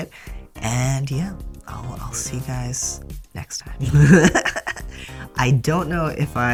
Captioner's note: laugh